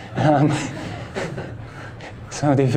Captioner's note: laughter